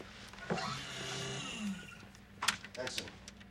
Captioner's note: machine whirring